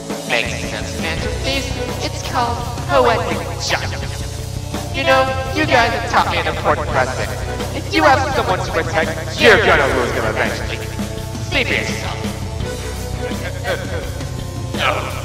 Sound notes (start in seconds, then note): 12.7 laughs